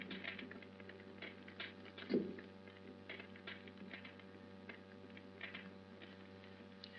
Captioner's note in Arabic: فرقعة النار